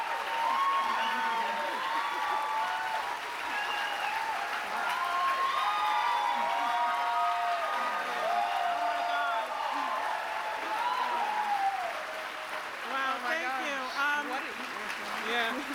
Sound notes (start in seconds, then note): 1.9 cheers and applause